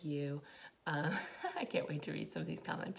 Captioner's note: giggles